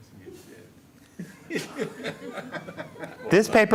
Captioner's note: laughter